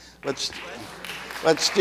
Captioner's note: audience applauds